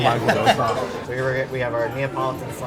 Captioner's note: laughs